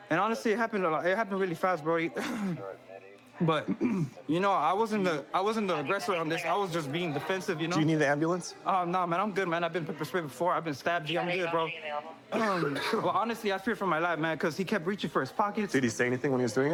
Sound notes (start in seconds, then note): 12.3 coughs